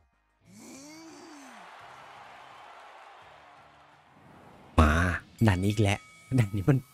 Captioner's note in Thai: ปรบมือ